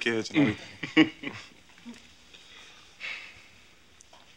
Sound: chuckling

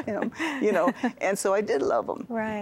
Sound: giggling

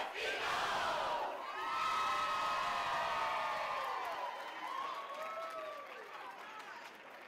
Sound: cheering

